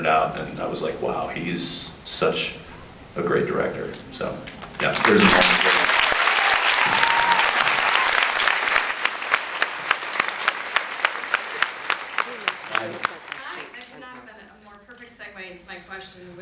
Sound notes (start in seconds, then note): 5.6 applauds; 6.9 off mic; 7.7 applauds